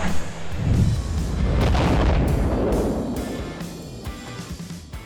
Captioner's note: engine roaring; super sonic burst; upbeat music